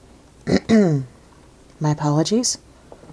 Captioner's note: clears throat